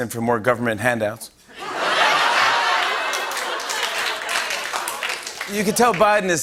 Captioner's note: laughter and applause